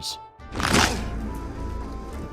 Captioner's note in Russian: хрусь